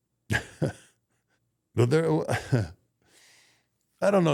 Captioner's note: Undertaker chuckles